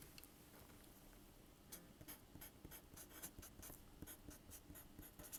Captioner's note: pen scratching